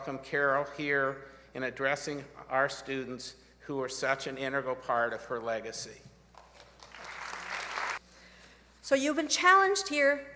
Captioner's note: applause